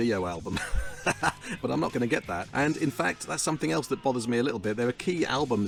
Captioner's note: laughs